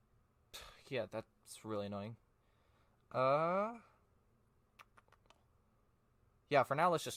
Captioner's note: sigh